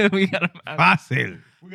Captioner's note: non-english Speech